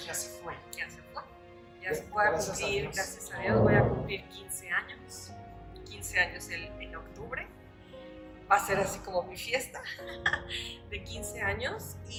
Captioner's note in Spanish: risas